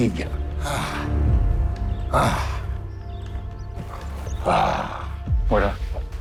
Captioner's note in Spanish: Suspiros